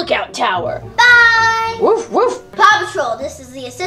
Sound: dog barking

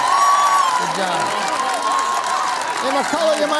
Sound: applause

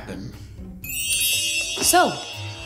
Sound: chimes chiming

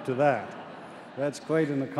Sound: laughter

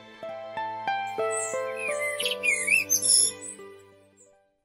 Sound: blackbird sings

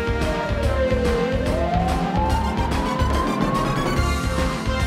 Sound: siren wailing

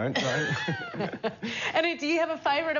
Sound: both laugh

